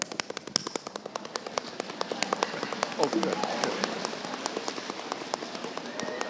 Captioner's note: audience applauding